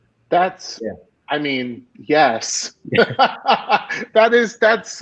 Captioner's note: laughing